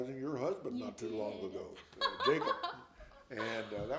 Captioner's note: laughs